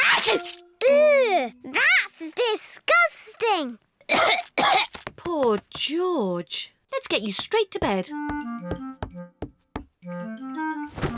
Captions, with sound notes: -(SNEEZES) -Ew! That's disgusting! (COUGHS) Poor George. Let's get you straight to bed.